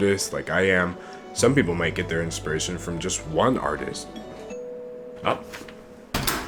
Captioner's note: doorbell rings